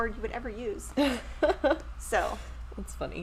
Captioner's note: chuckles